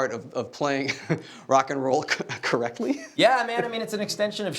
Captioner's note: laughing